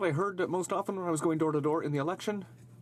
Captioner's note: speaking in french